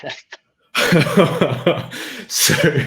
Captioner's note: laughing